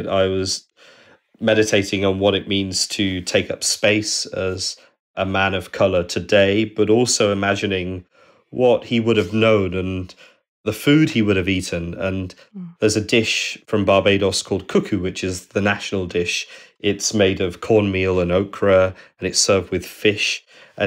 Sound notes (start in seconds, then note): none